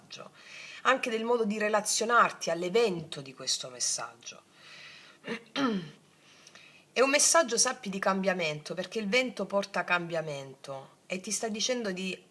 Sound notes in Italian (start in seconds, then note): 5.2 schiarire la voce; 5.2 tosse